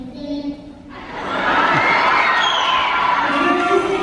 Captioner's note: audience laughter